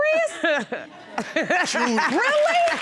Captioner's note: laughs